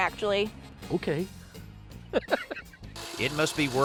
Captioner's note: laughs